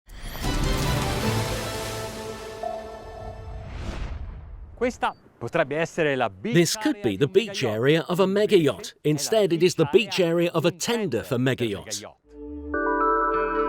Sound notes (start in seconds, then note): 0.4 dramatic music; 5.2 speaking in foreign language